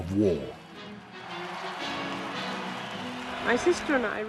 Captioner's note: crowd cheering